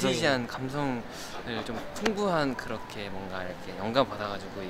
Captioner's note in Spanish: Jajajaja